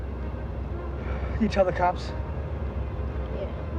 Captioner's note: sighs